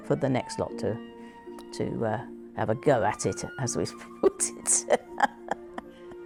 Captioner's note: laughs